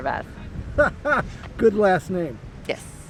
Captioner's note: laughs